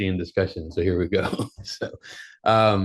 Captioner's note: laughs